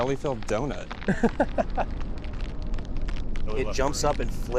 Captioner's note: person laughing